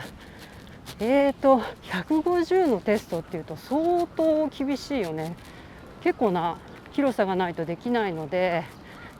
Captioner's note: the T-shirt is rubbing and there is noise